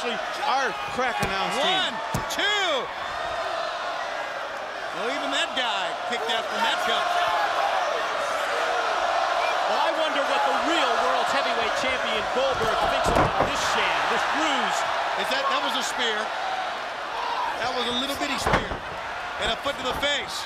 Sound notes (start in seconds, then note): 3.2 crowd cheering; 8.0 crowd cheering